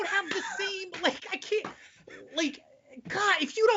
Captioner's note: laughing